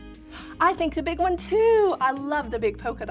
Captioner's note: gasps